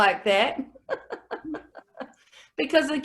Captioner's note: laughs